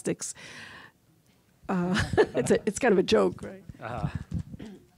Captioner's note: laughing